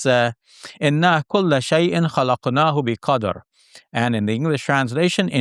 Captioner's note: speaks Arabic